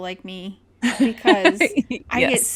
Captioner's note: laughs